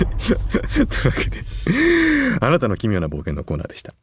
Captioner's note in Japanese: 笑い